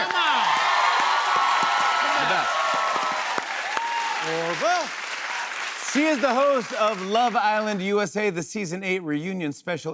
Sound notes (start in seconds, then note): 1.4 cheers and applause